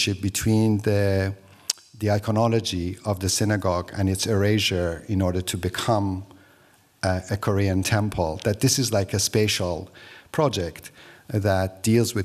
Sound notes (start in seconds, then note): none